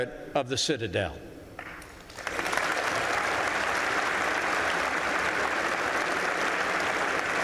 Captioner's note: applause